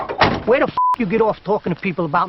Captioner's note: door slams; beep